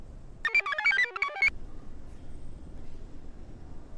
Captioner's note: computer chirps